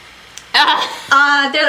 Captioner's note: laughs